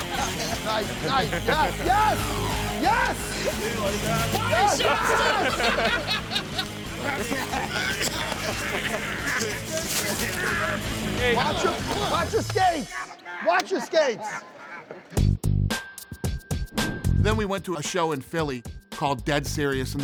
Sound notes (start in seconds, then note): 5.2 laughing